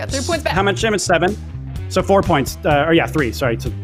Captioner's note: none